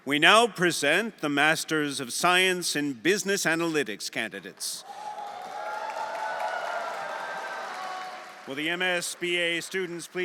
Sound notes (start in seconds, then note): 4.8 everyone applauding and cheering